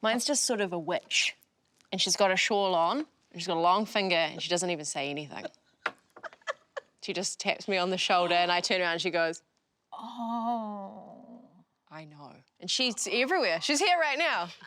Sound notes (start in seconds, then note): 6.2 laughing